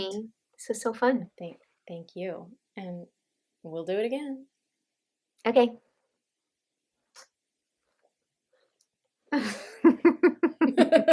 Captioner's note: laughter